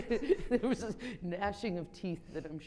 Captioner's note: chuckles